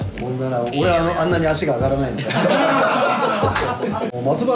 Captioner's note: laughs